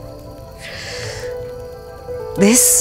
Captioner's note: Sighs